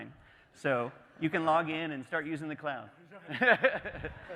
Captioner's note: laughing